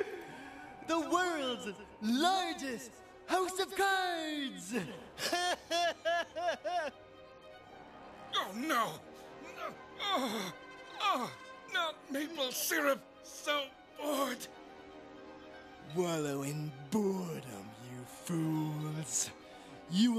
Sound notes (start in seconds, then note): 4.8 laughs